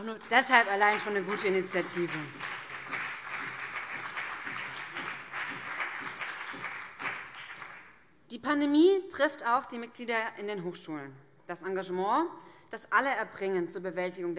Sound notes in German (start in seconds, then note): 2.7 Beifall BÜNDNIS 90/DIE GRÜNEN und CDU